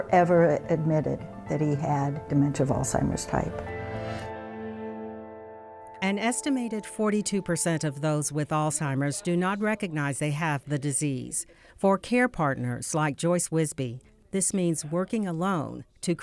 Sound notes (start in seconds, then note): 5.6 voiceover